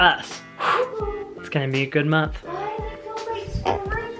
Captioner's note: exhales